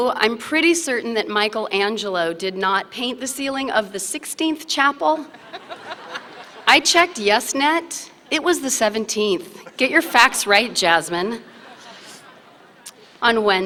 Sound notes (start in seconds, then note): 5.2 laughter